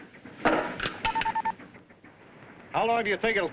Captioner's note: radio beeps